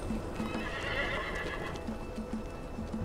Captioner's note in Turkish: At kişnemesi